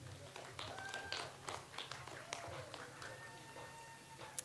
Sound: audience applauds

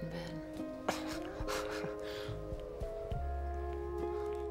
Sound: laughs

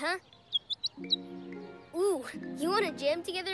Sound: chirps

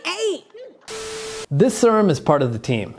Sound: static sound effect

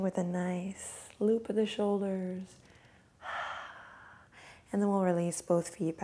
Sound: sighs

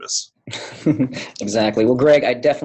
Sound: chuckle

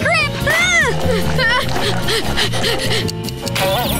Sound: panting

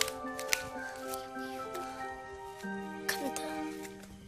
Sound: panting

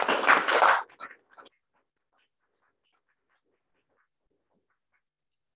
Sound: applause

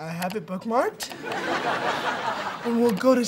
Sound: laughing

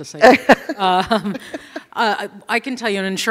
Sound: laughter

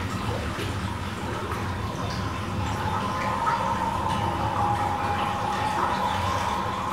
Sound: water flowing

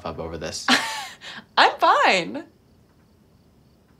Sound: chuckles

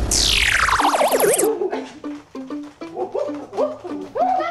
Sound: gorillas hooting

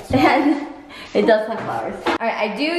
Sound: chuckles

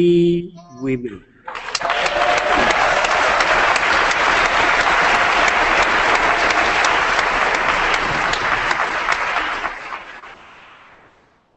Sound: applause

